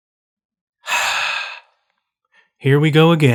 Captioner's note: sigh